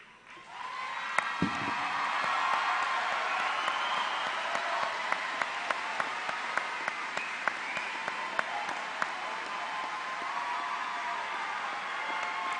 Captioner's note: applause